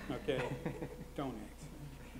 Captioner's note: laughs